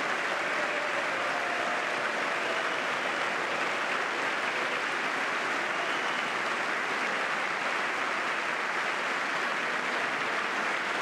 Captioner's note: applause